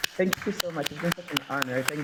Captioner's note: applause